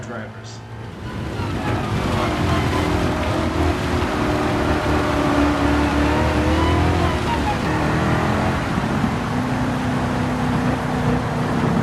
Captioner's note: engines revving, cars noises, rain